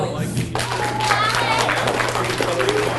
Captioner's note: audience cheers applauds; people chattering